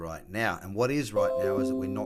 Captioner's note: notification pings